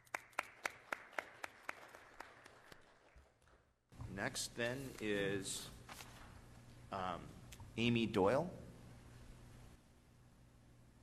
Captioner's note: applause